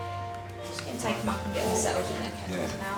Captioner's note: chatter